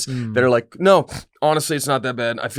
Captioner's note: snorts